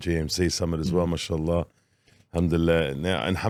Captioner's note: speaking in foreign language